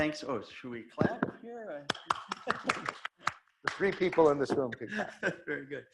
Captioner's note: laughs